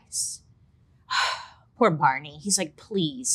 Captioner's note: sighs